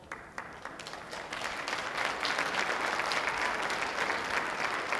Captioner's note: audience applauding